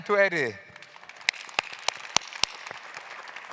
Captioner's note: claps